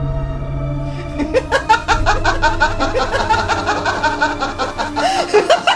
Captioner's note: Madame Carrozza laughs